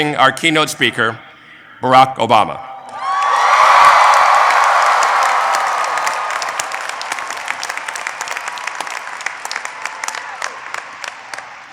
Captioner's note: applause